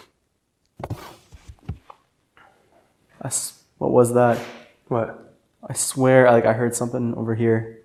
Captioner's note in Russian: Звук стука/скольжения